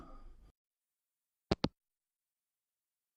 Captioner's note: hangup